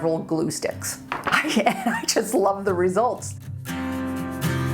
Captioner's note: laughs